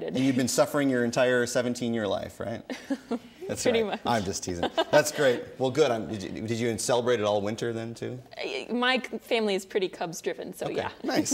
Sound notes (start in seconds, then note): 2.8 laughing